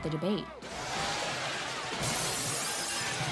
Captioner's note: crashing